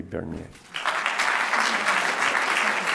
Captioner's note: applause